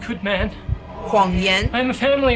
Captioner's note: Mandarin language